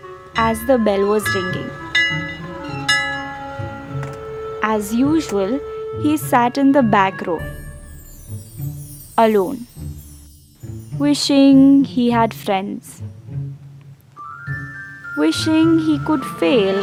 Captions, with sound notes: as the bell was ringing. [school bell tolling] As usual, he sat in the back row. Alone. Wishing he had friends, wishing he could fail